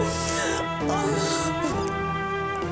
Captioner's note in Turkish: Ağlıyor